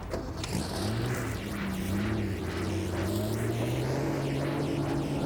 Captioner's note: car engine rumbling